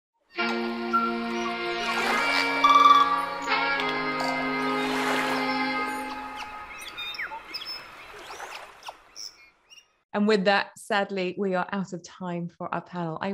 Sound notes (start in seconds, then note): 0.3 light music; 0.7 waves murmuring; 6.3 birds chirping